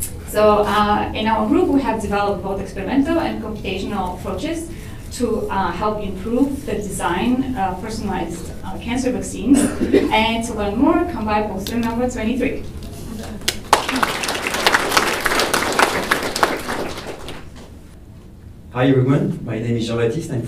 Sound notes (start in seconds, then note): 13.2 applause